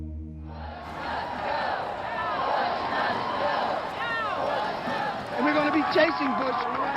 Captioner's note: chanting